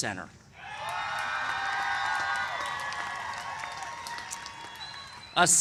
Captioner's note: cheers and applause